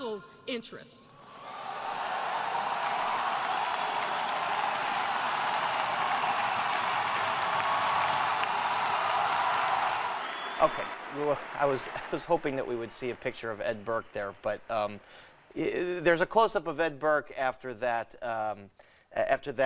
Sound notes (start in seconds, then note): 4.0 cheering; 5.6 applause